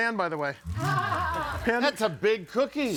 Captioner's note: audience laughing